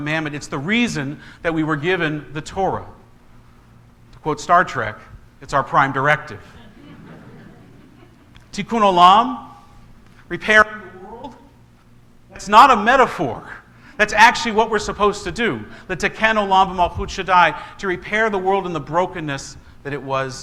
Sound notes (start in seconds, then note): 13.8 congregation laughs